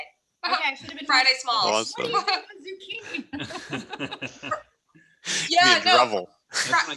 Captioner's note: laughs